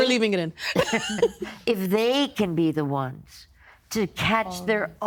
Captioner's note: chuckling